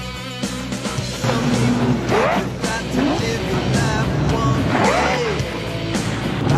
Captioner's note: motor revving; more motor revving